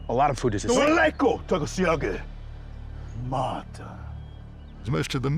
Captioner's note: speaking shawnee